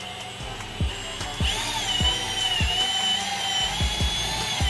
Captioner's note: drilling